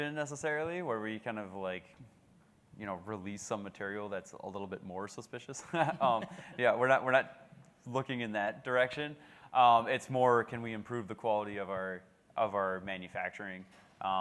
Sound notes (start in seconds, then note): 5.6 laughs